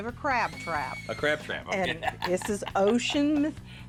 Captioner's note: laughs